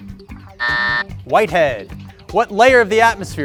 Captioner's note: buzzer sounding